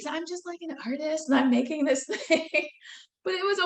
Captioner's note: laughing